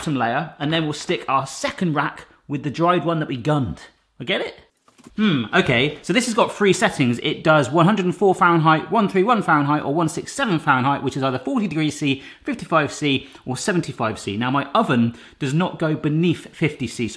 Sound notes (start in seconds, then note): none